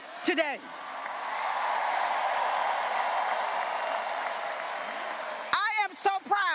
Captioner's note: graduates cheering and applauding